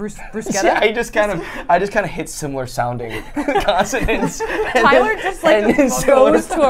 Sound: laughs

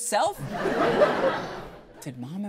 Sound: audience laughs

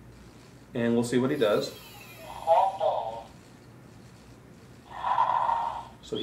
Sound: snoring

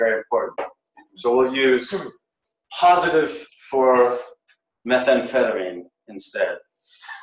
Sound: laughs

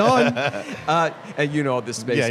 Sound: laughter

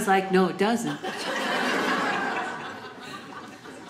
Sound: audience laughing

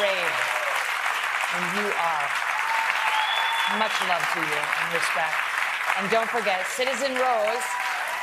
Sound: applause

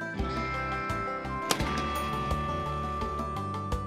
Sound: gunshot

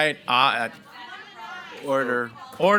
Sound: audience chattering

